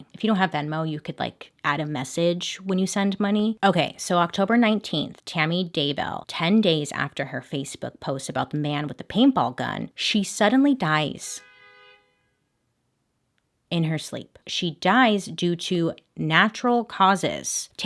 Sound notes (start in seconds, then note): 11.2 car honks